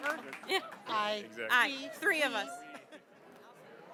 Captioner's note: applause